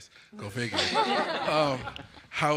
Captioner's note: laughter